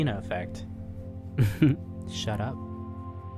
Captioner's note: giggles